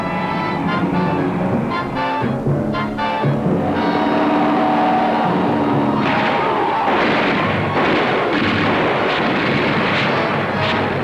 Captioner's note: gun shots